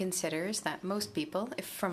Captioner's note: speaking French